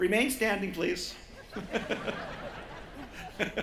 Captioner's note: laughter